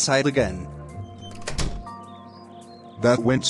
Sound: door Closes

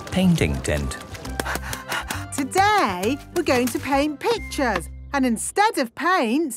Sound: panting

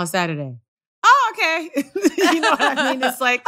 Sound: laughter

